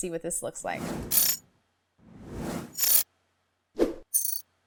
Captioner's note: air whooshing